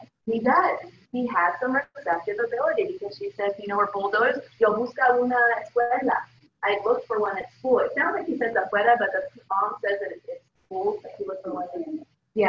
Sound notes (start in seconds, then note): 4.7 speaking spanish; 9.9 spanish